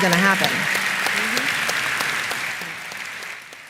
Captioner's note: applause